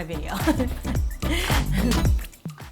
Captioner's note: upbeat music; laughs